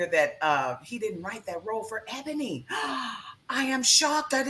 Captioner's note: gasps